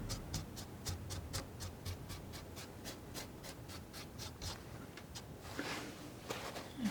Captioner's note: scratching